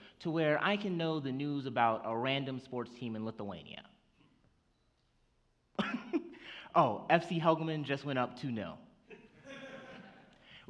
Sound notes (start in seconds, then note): 5.8 chuckles; 9.2 audience laughs